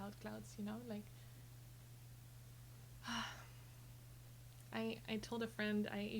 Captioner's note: sighs